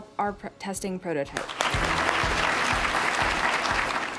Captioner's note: applause